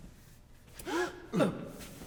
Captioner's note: sharp inhale